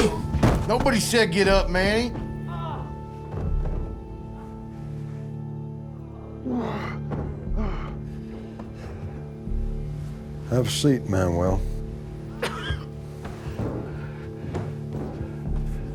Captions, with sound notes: Nobody said get up, Manny. [GROANING FROM OTHER ROOM] [HEAVY BREATHING] Have a seat, Manuel. [COUGHING]